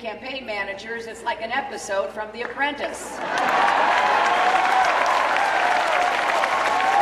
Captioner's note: cheering